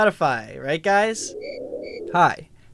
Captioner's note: crickets chirping